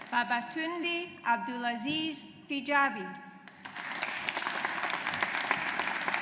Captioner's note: audience applauds